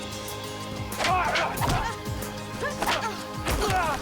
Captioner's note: grunting